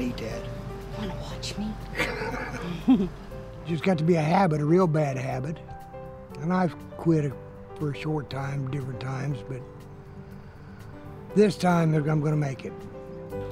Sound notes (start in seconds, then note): 1.9 both laugh